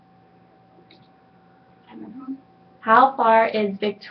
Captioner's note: clicking